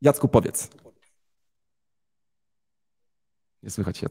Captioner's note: silence